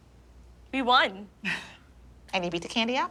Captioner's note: chuckles